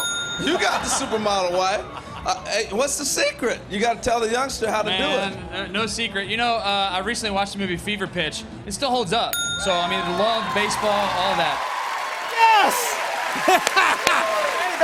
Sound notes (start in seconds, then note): 9.3 ding!; 9.6 cheers and applause